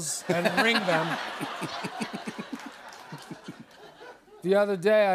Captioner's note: laughter